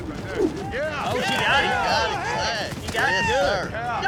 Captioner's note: cheering